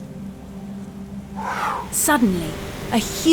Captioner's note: woosh